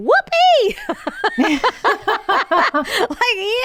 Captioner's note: laughing